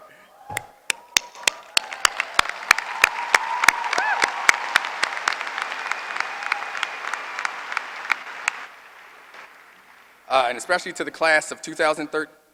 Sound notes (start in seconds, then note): 1.1 applause